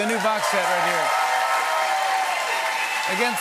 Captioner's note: cheers and applause